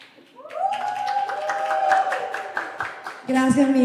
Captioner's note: clapping; cheering